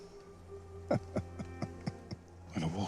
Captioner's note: Darius chuckles and Rycroft Philostrate smiles